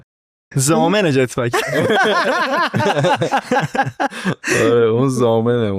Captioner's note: laughs